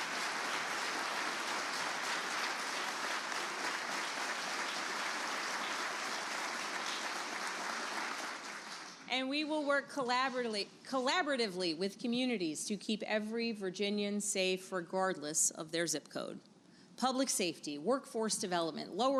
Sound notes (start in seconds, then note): 0.0 applause